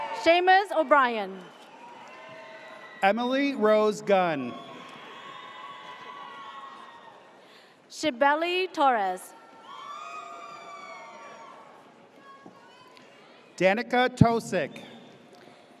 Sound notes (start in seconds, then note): 0.0 audience cheers; 1.2 audience cheers; 9.4 audience cheers